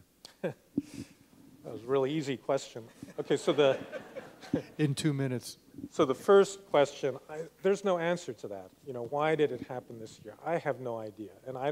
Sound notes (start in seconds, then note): 3.0 laughs; 3.0 laughter